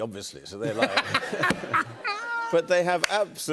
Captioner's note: laughter